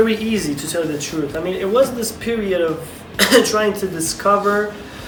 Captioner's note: coughs